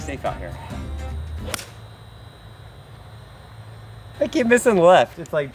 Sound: golf club pings

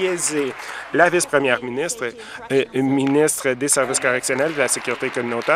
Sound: applause

